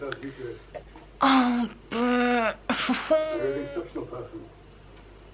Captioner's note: noises of disbelief and can we please stop this now